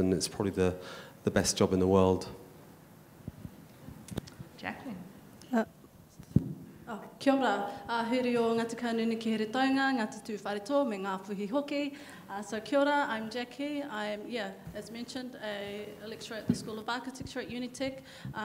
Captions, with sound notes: and it's probably the best job in the world. - Jacqueline. (speaking in foreign language) - I'm Jackie I'm, yeah, as mentioned, a lecturer at the School of Architecture at Unite,